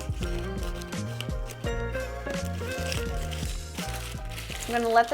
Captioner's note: parchment crinkles